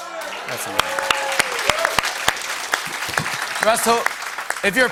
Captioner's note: cheers and applause